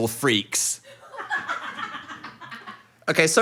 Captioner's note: people laughing